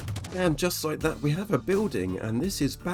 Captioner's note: rapid cannon fire